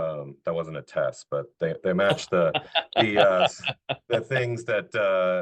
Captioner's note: laughing